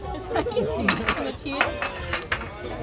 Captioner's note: laughs